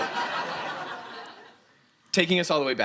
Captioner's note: students laughing